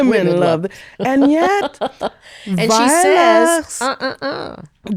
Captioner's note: laughing